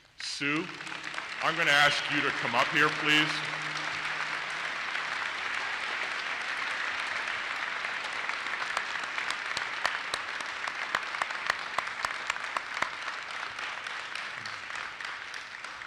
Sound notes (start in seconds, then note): 0.5 audience applauses; 7.7 claps